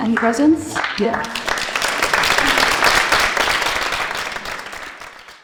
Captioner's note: applause